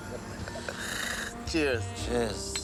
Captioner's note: laughing